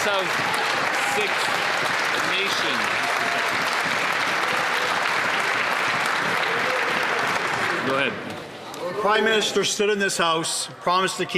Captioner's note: some Applause